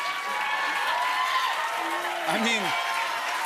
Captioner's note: cheers and applause